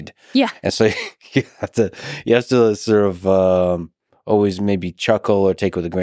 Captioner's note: chuckles